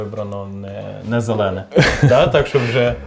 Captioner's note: chuckles